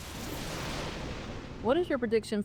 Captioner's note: thunder rumbles